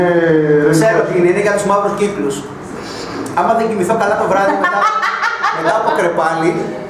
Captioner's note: laughs